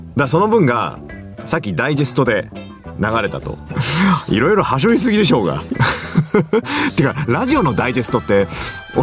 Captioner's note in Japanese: 笑い